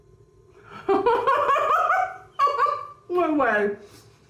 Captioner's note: laughing